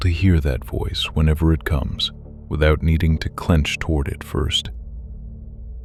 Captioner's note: quiet voice